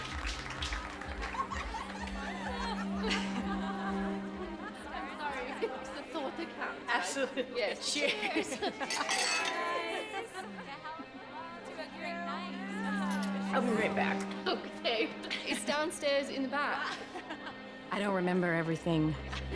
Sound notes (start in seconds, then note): 6.8 all laughing; 8.8 glasses clinking